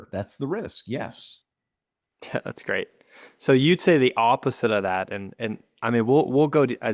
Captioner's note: laughs